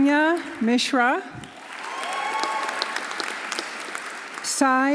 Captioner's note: audience applauding; audience cheering